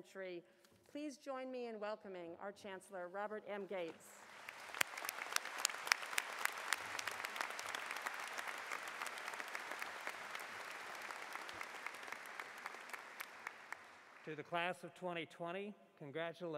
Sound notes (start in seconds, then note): 4.1 applause